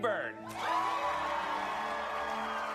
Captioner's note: audience cheering